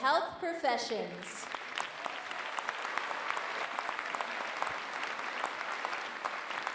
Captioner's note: applause